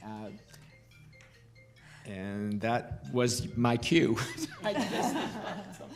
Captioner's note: phone ringing